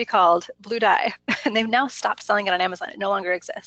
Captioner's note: laughs